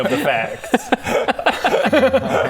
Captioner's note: honest laughter